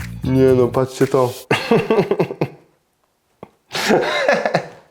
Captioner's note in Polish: śmiech